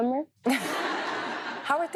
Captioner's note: audience laughs